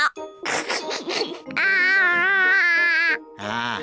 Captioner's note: giggles